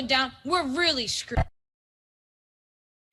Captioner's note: audio cuts out